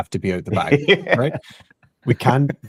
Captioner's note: laughing